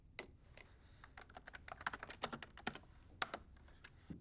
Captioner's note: typing